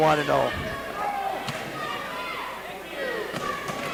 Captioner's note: crowd yells